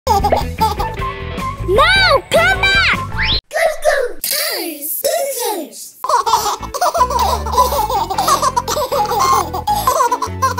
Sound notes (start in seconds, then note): 0.0 baby laughing; 6.0 babies laughing